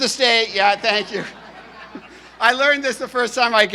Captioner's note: audience laughing